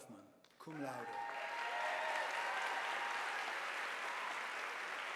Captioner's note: audience applauding